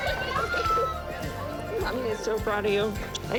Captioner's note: kisses